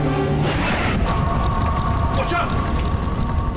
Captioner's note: jet engine humming; tire screeches